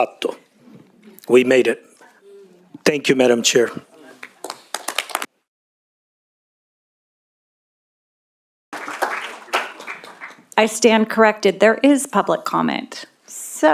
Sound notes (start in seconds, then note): 4.4 applause